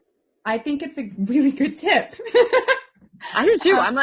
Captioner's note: laughs